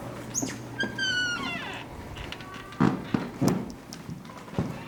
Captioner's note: door creaking